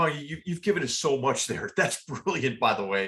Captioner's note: laugh